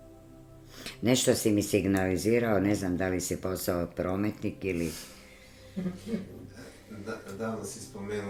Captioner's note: laughter